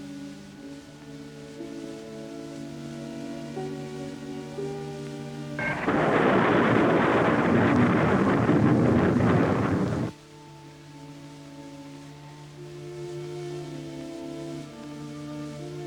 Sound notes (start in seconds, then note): 5.6 rocket rumbling; 13.1 gentle instrumental music